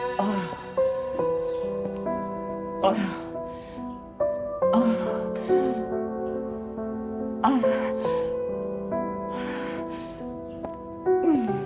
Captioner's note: heavy breathing